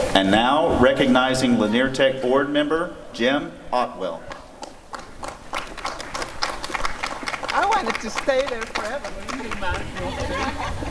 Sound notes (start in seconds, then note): 4.3 applause; 9.4 laughter